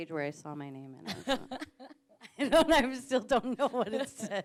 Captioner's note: interviewer laughs